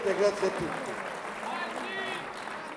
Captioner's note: Applauso